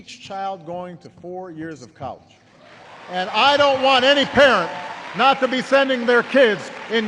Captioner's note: applause